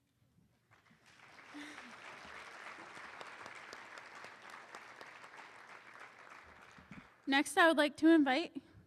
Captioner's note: applause